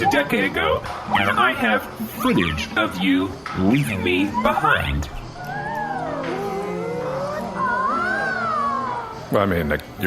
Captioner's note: bar patrons “ooh”